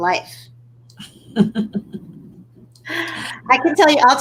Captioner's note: laughing